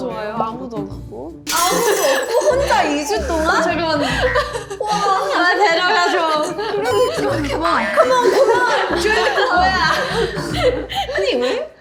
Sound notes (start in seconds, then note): 2.6 murmurs in the crowd